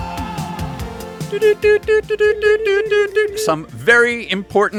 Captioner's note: morse Code noises